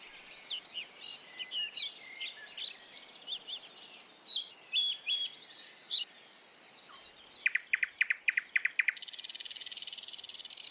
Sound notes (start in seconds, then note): 3.8 tweets; 7.4 chirps, chitters